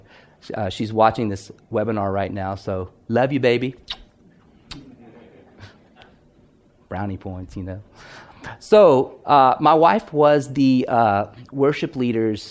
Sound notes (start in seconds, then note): 3.8 blows a kiss; 4.4 laughing